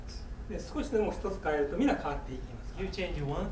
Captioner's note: speaking in foreign language